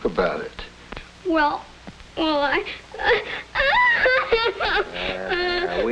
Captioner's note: sobs